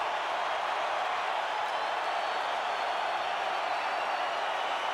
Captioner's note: crowd cheering continues